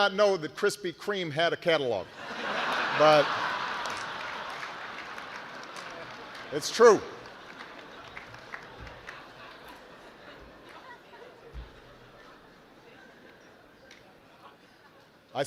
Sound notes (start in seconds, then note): 2.1 laughter